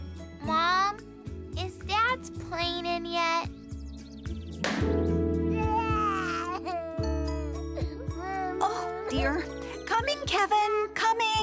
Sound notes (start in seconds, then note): 5.6 Kevin crying